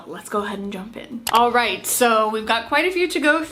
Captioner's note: mouse clicking